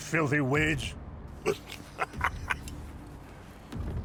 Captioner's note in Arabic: ضحك مخمور; موسيقى متوترة